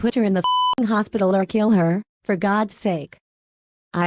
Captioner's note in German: Piep